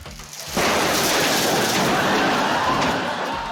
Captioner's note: crash!